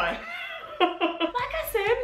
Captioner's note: laughs